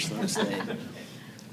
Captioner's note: laughter